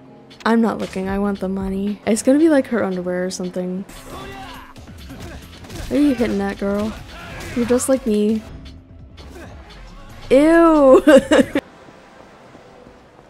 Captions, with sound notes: I'm not looking, I want the money. It's gonna be, like, her underwear or something. Where you hittin' at, girl? You're just like me. Eww! [laughs]